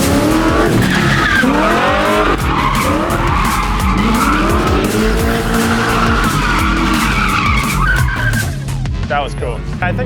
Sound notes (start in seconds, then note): 0.0 car engine revving; 0.0 tires screeching